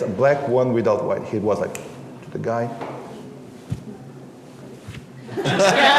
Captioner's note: snaps fingers; laughter